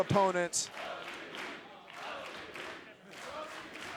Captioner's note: crowd chanting